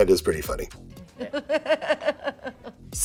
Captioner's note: laughing